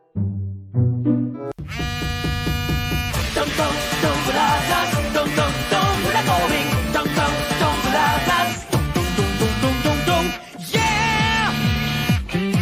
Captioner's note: Althea's Phone Rings In